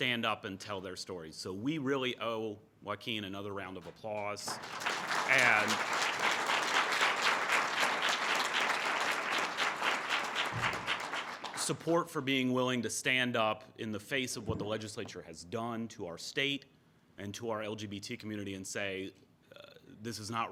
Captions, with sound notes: that we represent to stand up and tell their stories so we really owe Joaquin another round of applause, and (audience applause) support for being willing to stand up in the face of what the legislature has done to our state and to our LGBT community